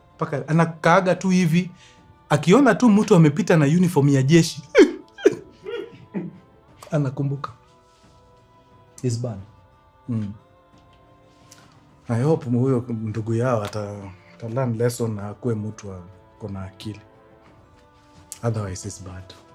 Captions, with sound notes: She just sits, and when she sees someone crossing in the army uniform, [sobbing] she remembers. It is bad. I hope their brother learns his lesson and becomes a better person. Otherwise it's bad.